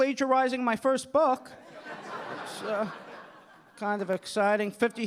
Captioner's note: audience laughing